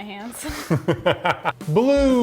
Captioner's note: laughing